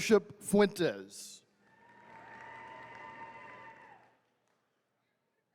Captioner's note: attendees cheering